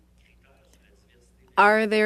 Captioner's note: speaking French